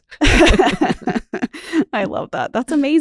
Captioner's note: both laugh